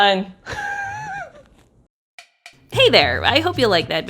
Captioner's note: laughs